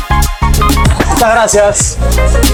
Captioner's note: in Spanish